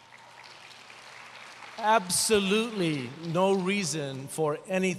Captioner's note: applause